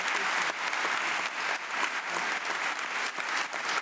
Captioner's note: audience clapping